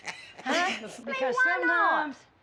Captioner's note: laughs